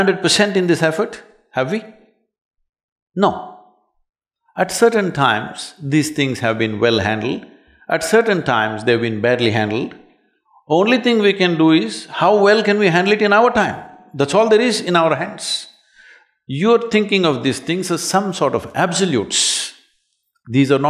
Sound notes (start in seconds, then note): none